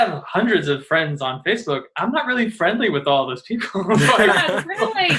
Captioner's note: all chuckling